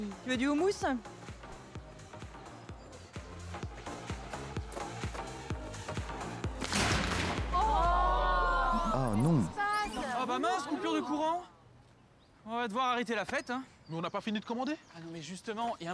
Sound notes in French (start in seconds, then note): 7.3 en choeur